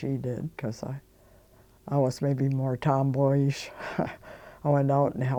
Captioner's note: chuckling